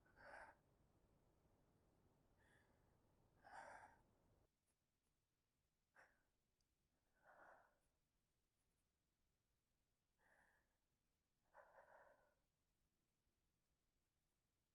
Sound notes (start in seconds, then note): 5.5 strained breathing